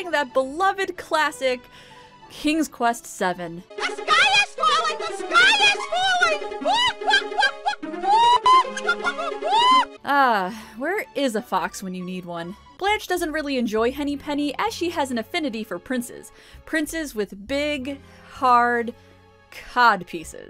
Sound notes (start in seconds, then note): 9.2 hysterical squawking